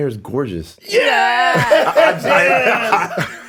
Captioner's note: all laughing; chuckling